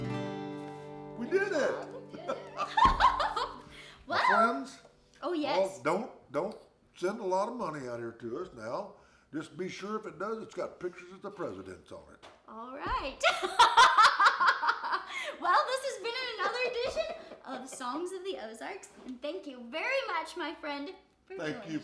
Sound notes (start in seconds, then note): 1.2 laughing; 14.2 laughing